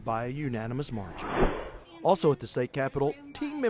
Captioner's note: swoosh